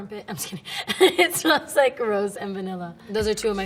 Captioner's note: laughing